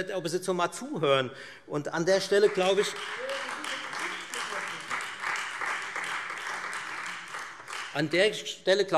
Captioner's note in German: Beifall Freie Demokraten